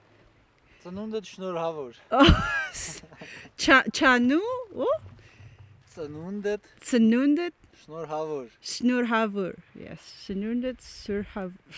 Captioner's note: speaking Armenian and trying to imitate